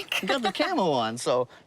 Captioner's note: laughs